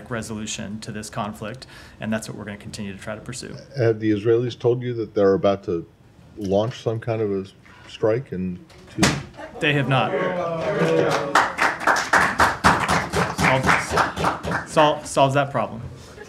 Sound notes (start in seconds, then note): 10.8 applause; 16.1 laughter